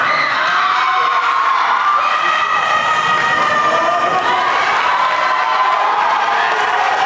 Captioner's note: group responds; group applauding